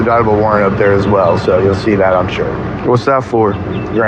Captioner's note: none